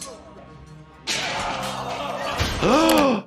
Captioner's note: person working out screaming; gasping